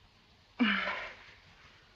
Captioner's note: sigh